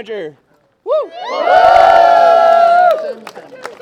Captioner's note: cheering